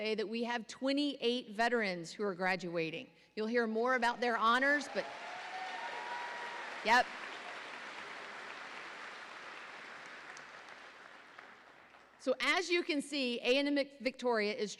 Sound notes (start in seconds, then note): 5.4 audience applauding